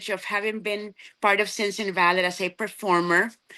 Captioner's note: none